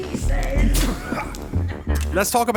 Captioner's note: doctor grunts; scythe whirs